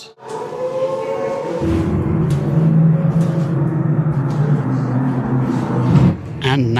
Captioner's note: aircraft engine